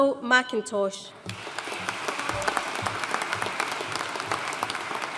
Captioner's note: audience applauding